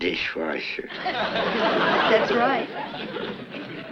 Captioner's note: audience laughs